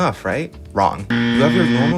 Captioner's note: loud incorrect buzzer